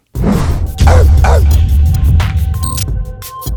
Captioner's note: dog barks